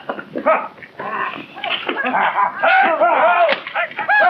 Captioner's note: men shouting